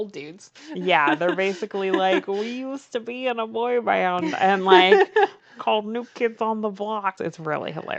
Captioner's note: laughs